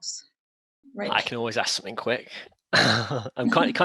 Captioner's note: chuckles